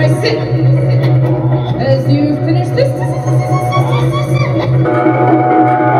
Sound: sh-sh-shhh

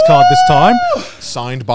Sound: screaming

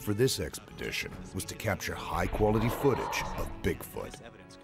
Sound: voiceover

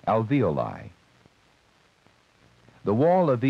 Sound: ticking sound

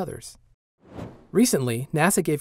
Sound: whoosh

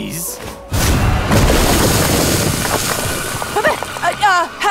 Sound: explosion booming

